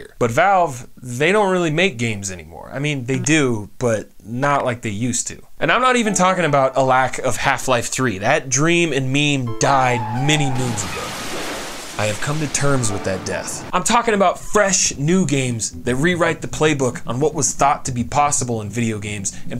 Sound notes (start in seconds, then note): 10.4 car crash